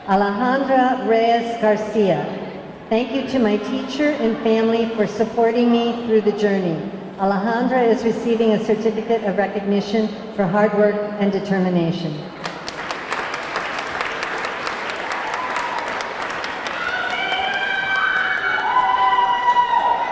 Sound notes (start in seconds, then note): 12.4 audience clapping; 13.7 audience cheering; 16.9 audience clamoring